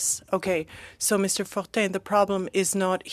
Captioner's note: speaking french